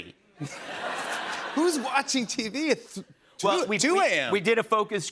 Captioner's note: laughter